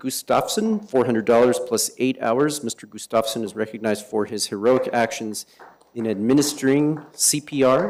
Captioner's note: applause